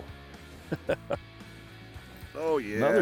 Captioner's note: laughter